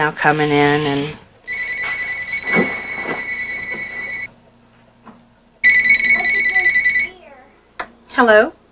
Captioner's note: phone ringing